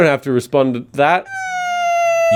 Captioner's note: crying